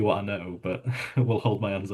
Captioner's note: chuckles